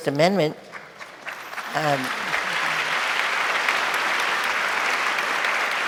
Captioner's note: audience applauding